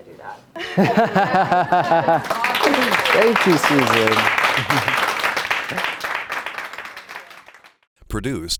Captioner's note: chuckling, clapping